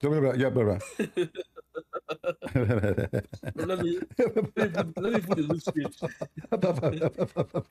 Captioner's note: Ketawa